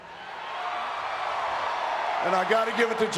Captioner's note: crowd cheering